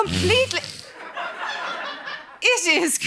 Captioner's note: flatulence